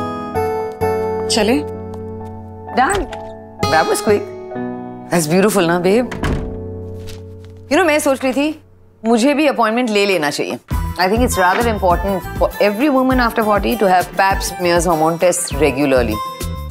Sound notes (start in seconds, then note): 2.8 door opens; 6.0 door closes